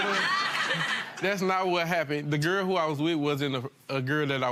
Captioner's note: audience laughs